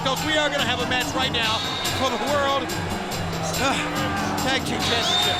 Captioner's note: sighs